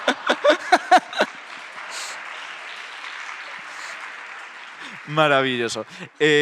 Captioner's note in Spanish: Aplausos